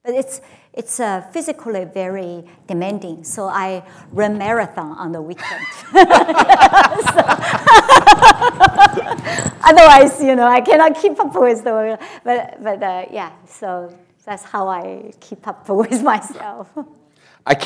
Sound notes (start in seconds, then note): 5.4 laughter